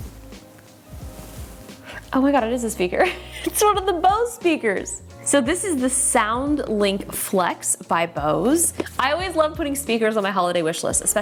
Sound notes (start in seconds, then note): 3.2 laughing